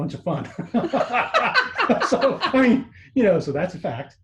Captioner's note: laughs